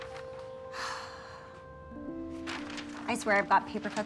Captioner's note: sighing